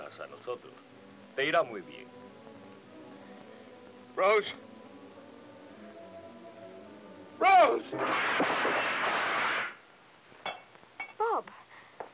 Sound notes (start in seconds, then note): 5.1 tense music; 8.4 tray clatters